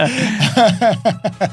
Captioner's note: laughing